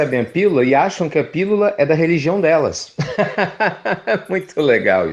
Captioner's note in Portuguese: Risos